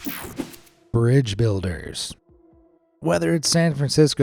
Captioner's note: screen whooshing